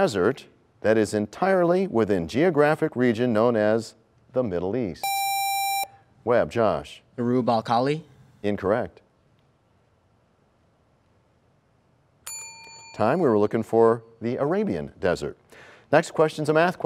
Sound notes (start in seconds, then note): 12.2 bell rings, time expires